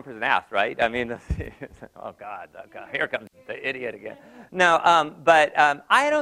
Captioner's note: laugh